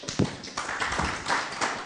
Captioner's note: applause